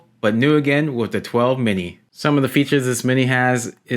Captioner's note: none